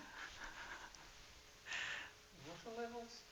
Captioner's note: laughter